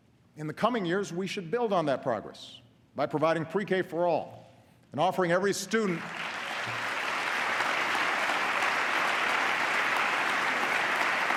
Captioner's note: applause